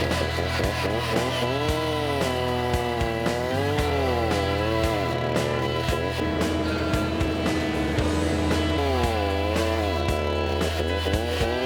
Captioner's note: chainsaw grinding